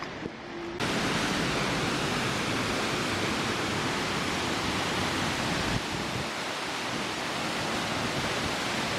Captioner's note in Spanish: caminata y sonido de la cascada